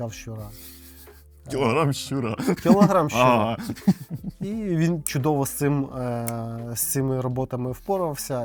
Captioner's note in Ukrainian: сміх